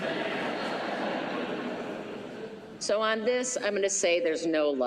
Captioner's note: laughter